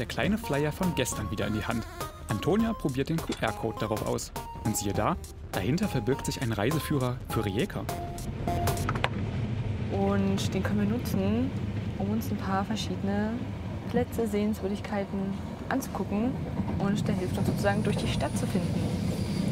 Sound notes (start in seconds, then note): none